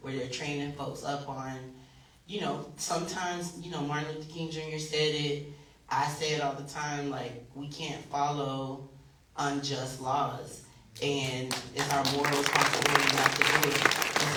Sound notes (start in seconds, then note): 11.2 applause